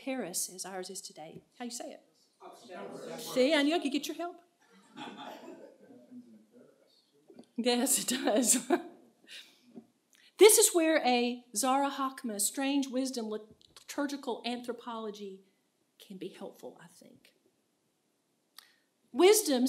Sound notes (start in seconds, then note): 8.2 laughter; 10.4 laughs